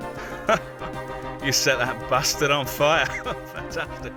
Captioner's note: laughing